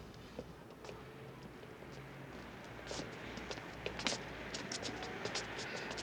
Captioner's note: people walking, cars driving